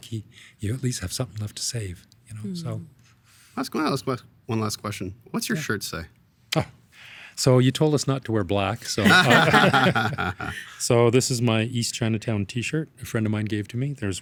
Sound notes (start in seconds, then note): 9.0 everyone laughing